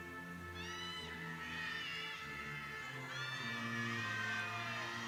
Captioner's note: people cheering